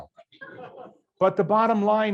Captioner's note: students laugh faintly